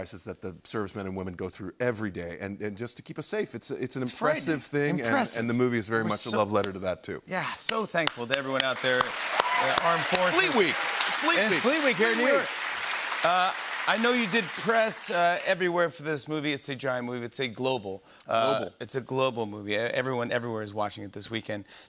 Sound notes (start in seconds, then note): 10.2 cheers and applause